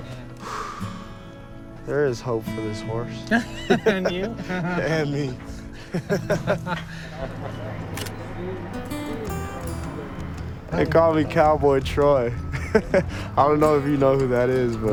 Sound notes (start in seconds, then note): 3.2 laughing; 5.9 both laughing; 12.3 laughing